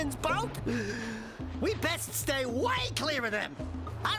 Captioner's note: inhales